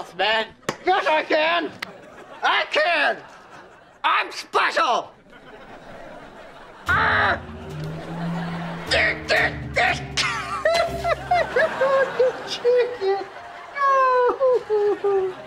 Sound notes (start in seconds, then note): 7.8 grunting; 9.8 crying